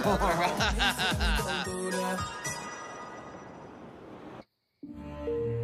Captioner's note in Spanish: Risas